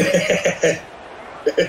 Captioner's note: laughing